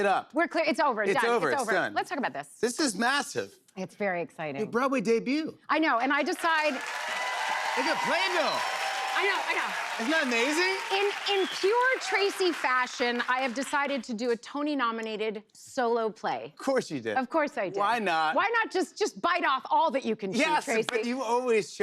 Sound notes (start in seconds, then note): 6.6 cheers and applause